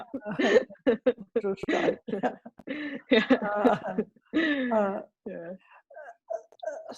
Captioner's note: laughter